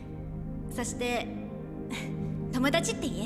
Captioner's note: chuckles